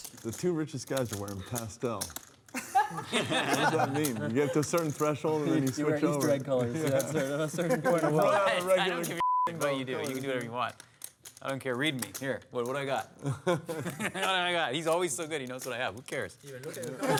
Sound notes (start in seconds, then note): 2.5 laughter